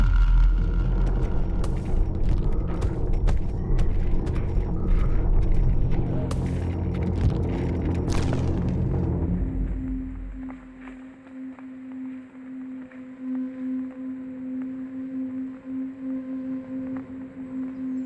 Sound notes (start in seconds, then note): 1.6 thumping; 6.3 twigs cracking; 10.1 suspenseful music